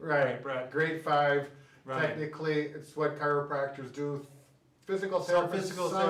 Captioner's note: hesitantly